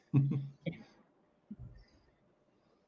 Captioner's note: chuckles